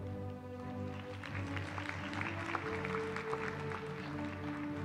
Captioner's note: applause